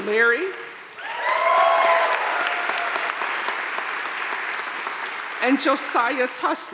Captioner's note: crowd cheering and applauding